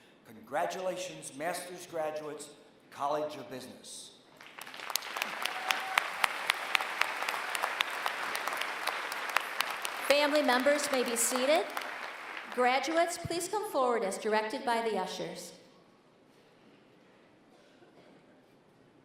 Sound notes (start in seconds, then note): 4.3 applause